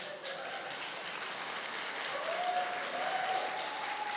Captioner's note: applause